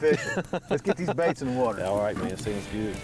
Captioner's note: laughing